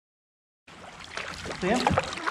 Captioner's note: light splashing